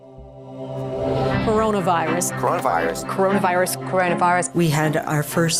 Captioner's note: voices of news anchors repeating